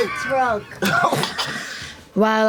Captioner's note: laughter